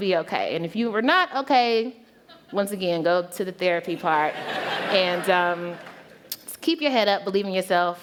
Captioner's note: laughter